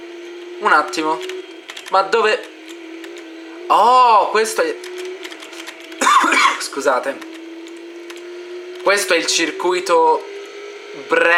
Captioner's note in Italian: Colpo di tosse